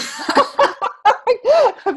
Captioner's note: laughing